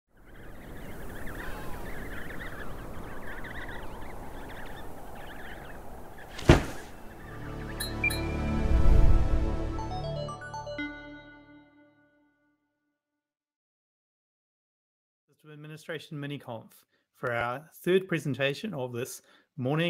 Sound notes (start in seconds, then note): 0.1 wind blowing; 0.2 baby penguins chirping; 6.1 metallic "blink" sound effect; 6.3 loud thud; 7.0 musical drone; 7.3 short uptempo melody; 8.5 whoosh